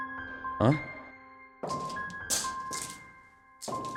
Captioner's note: steps